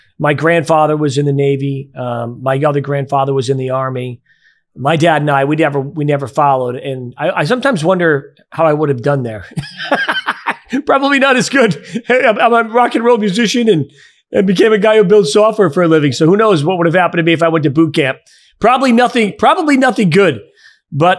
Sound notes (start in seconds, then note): 9.4 laughs